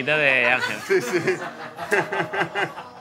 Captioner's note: laughs